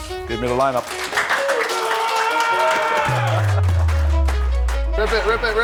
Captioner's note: players cheering and clapping